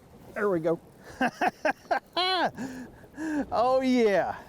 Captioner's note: laughs